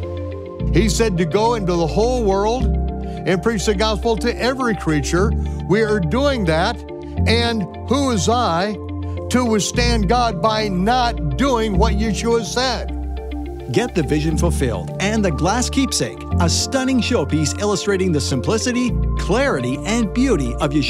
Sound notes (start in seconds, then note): 13.4 male Voice